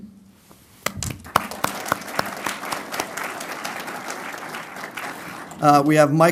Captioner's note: applause